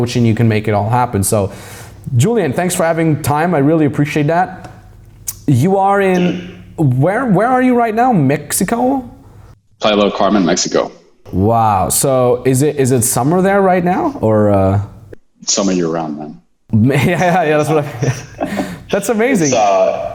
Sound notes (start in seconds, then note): 10.2 mutters; 16.7 laughing